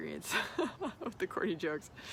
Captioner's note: laughing